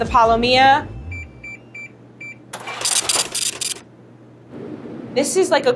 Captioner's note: scale beeps and brrhs